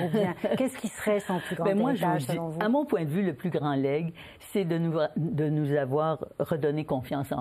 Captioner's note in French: rires